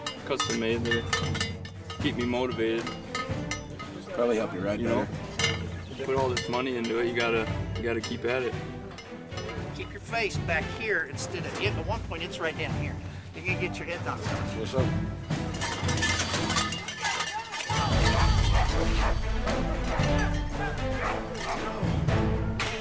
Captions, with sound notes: Custom made. Keep me motivated. - Probably help you ride better. - You put all this money into it, you gotta keep at it. - Keep your face back here instead of... At one point it's right down here. You're gonna get your head knocked off. - Yes, sir. (bells clanging) (epic orchestral music)